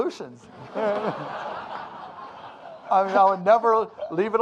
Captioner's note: audience laughing